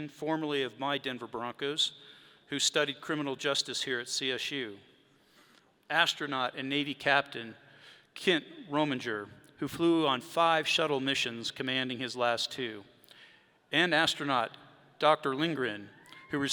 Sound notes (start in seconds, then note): none